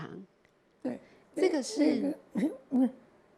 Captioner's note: Mandarin